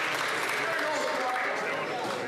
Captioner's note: some Applause